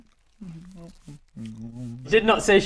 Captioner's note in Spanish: felices ruidos de masticación